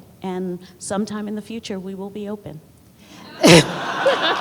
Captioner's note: laughter